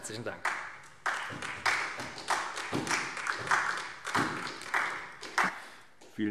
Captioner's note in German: Beifall SPD